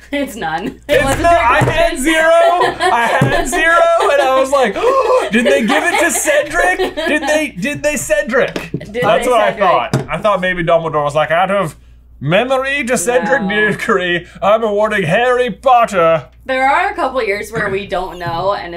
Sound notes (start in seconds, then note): 0.9 laughs; 4.9 gasp